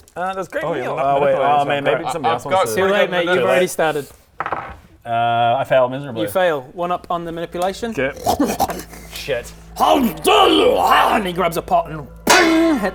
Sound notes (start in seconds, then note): 7.6 offended oinking; 12.2 clang!